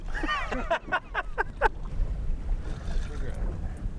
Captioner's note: laughing